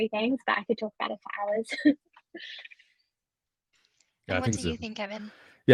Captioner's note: chuckles